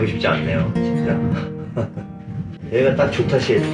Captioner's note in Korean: 헛 웃음